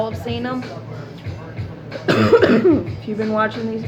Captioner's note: cbd cough